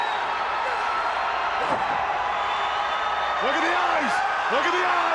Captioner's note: crowd cheering